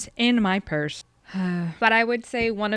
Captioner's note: sigh